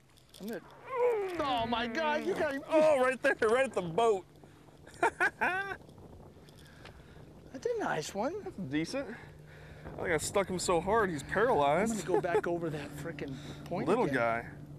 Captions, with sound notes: OOOOH!!! oh my god you got him right there at the boat [laughter] that's a nice one. decent I stuck him so hard he is stunned he is pluralized. [laughter] little guy